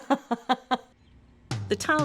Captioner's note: laughing